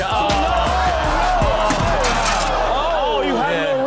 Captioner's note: audience groans